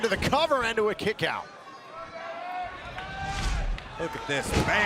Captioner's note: crowd cheering